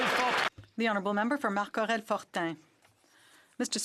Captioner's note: some Applause